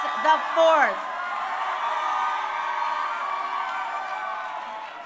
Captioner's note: crowd cheering